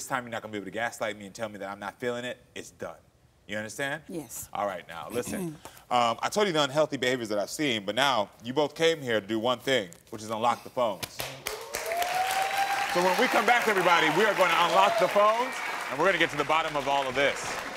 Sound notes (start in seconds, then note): 11.4 audience applauding and cheering